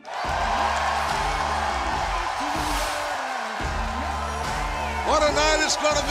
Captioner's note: cheers and applause